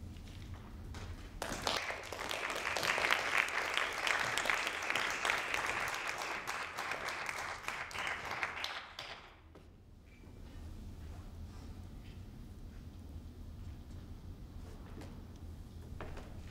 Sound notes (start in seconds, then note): 1.3 audience claps